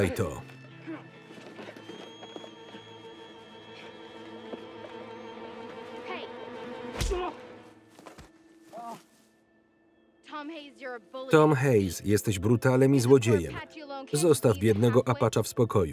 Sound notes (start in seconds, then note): 6.9 boy groans; 8.7 boy moans